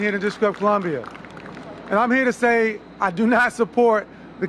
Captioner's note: applause